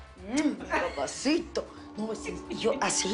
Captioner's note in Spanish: Risas